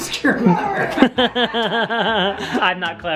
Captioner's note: laughing